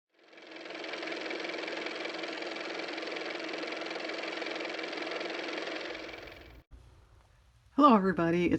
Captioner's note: car motor